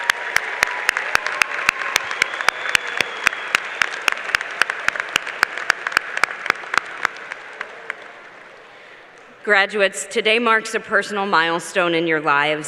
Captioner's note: applause